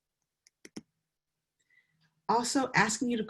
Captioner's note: mouse clicks